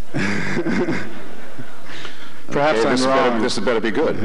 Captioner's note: chuckles